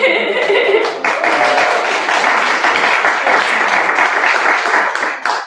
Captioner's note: laughter; applause